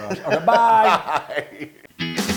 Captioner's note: laugh